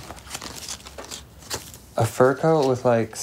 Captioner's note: paper rustling